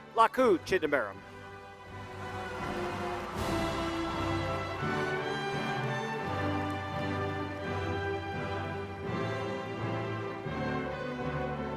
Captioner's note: applause